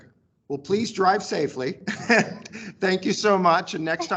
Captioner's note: chuckles